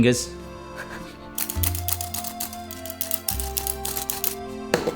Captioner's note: sifter sound